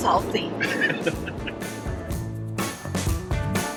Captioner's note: laughs